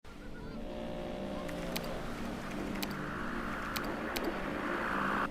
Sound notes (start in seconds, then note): 0.5 TV static buzzing